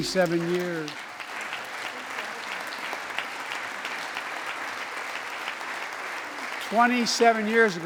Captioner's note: applause